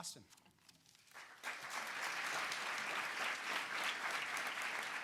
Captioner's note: audience applauding